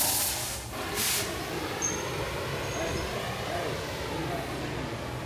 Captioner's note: blowtorch running